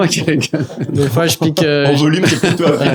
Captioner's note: laugh